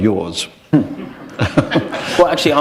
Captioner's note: chuckle